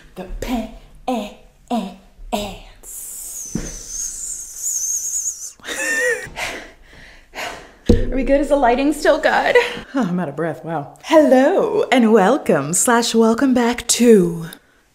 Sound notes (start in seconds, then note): 5.6 laughter; 6.2 gasps